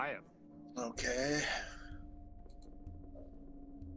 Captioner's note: clicking